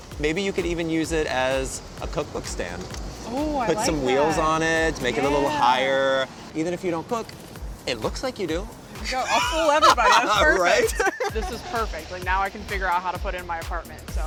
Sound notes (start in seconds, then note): 9.1 laughing